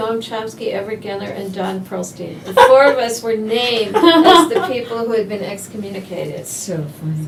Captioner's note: laughter